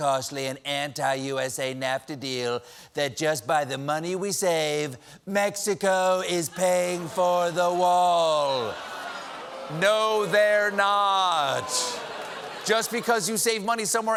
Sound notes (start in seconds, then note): 6.2 audience reacts